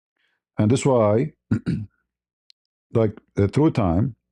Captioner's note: berdehem